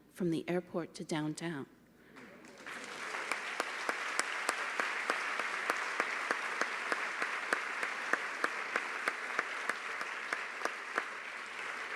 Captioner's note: applause